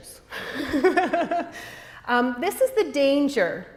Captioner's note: laughter